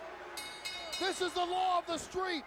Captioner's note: bell Chimes